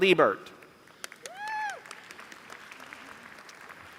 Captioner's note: applause